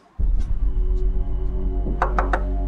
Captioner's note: knocking